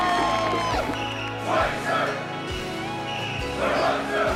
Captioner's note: cheering; indistinct shouting